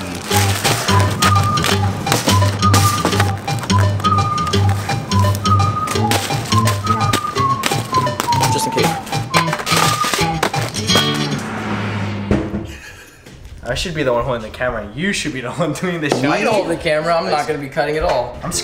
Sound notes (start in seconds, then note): 0.3 bread boop; 8.3 paper towel boop; 9.2 food coloring boop; 9.7 mac and cheese boop